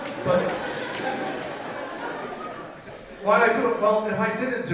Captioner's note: audience laughs